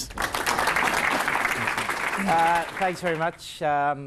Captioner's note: crowd clapping